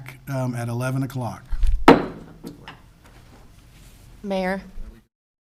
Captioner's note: gavel pounds